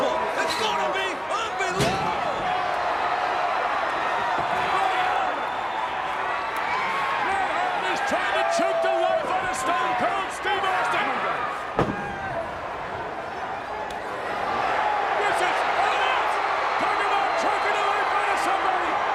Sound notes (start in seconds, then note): 2.9 crowd cheering; 12.7 crowd cheering